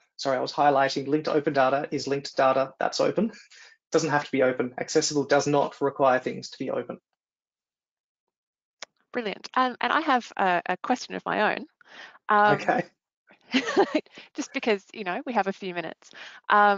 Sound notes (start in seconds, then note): 12.4 laughs